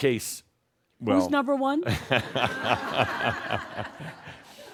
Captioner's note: laughter